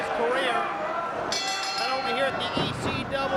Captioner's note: bell ringing